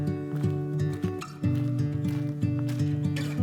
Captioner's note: footsteps